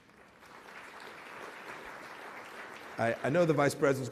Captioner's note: applause